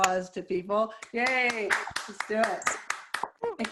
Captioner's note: applause